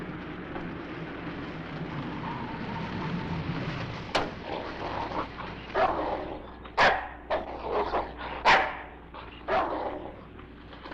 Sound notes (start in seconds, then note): 6.7 dog barking